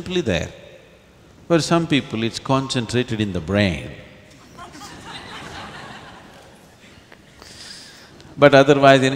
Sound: laughter

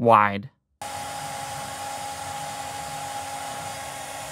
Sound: CNC machine cutting

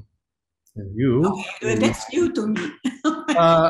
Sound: laughs

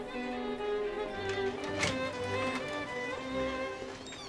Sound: sound of door opening

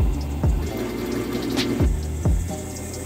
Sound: drilling

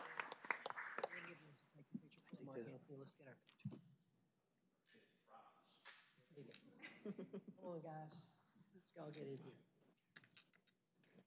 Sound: applause

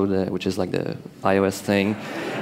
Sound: laughter

